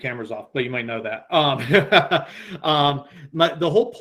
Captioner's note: laughs